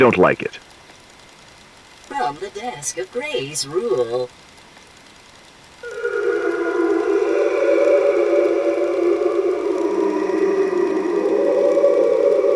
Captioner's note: whale song